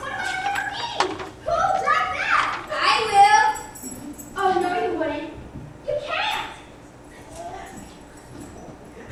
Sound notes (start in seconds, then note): 3.5 jangles keys